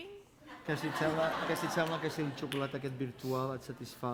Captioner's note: non-english speech